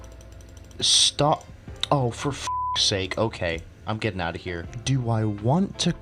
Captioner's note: tch